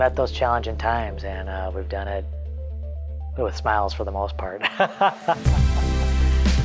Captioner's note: laughs; uplifting music